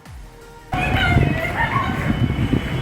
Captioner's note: incoherent yelling